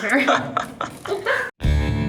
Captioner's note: laughing